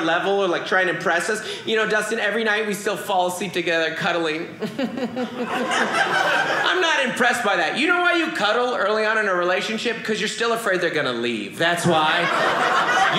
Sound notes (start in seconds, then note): 4.6 audience laughing